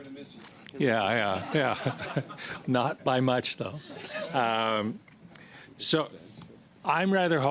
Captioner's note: laughter